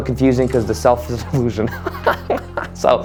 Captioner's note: laughs